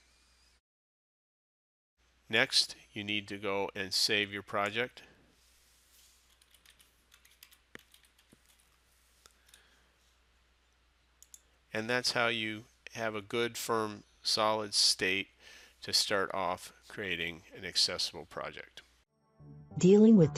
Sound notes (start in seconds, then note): 7.0 sound of typing